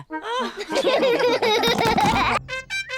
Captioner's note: all laugh